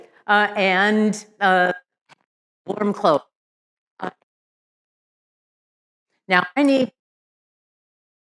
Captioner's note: audio distorts